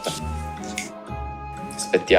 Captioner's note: snaps fingers